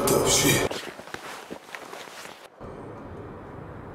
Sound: rustling of covers

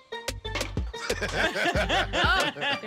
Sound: laughter

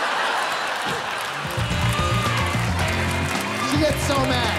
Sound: cheering

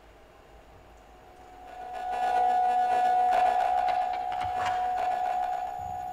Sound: electronic sounds

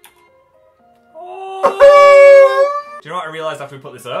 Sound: crying noises

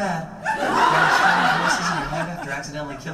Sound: audience laughs

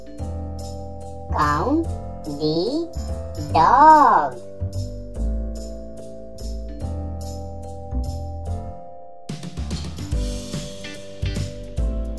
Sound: dog Sound

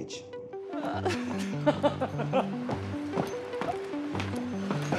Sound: laughing

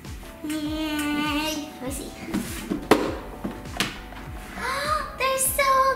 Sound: gasp

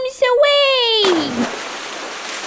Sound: splash!

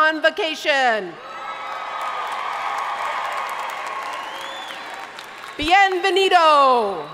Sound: audience cheering and applauding; speaking in foreign language

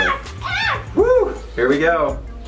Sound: screaming

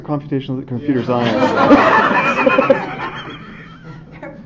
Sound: audience laughter

